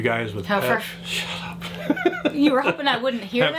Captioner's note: laughs